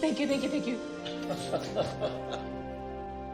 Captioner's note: Jack laughs